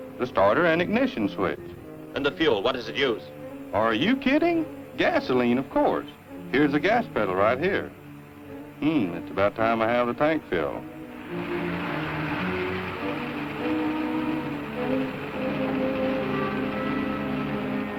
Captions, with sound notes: - The starter an ignition switch. - And the fuel, what is it use? Are you kidding? Gasoline, of course. Here's the gas pedal, right here. Hmm, it's about time I have the tank filled. [ CAR REVVING ] [ DISQUIETING MUSIC ]